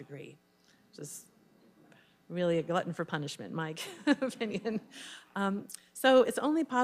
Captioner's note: laughs